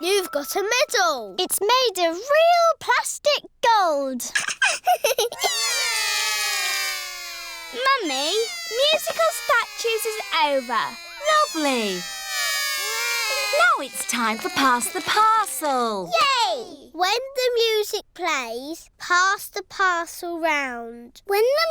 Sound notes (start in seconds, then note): 4.5 laughs; 5.6 all cry